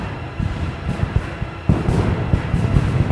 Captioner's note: guns fire